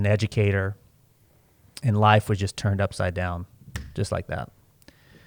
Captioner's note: snaps fingers